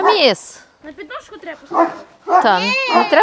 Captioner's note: kids chatting